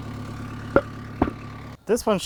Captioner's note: wood clunking